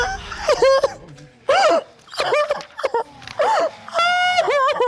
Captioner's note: sobbing